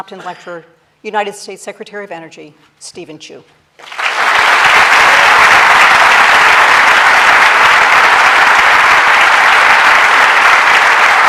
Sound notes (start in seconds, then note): 3.8 applause